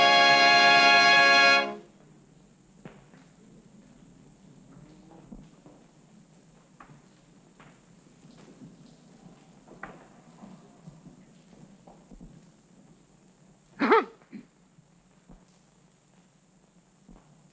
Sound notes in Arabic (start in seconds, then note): 13.8 سعال الأولاد